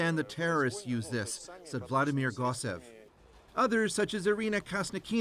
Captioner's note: speaking russian